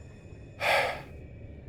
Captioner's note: exhales